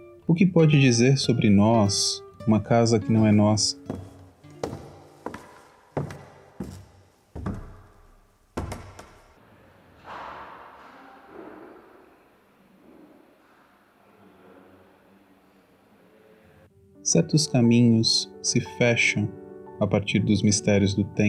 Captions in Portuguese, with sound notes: O que pode dizer sobre nós uma casa que não é nossa? [Passos subindo escada de madeira] [Som ambiente] Certos caminhos se fecham a partir mistérios do tempo